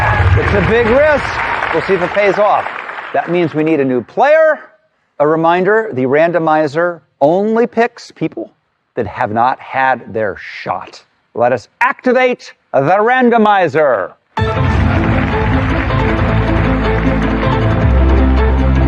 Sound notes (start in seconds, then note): 14.4 dramatic music; 14.4 cheering and applause